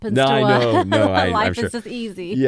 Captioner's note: laugh